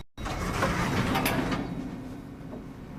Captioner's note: elevator bell dings